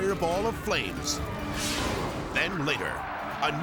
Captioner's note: graphics whooshing